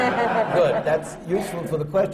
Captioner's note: laughter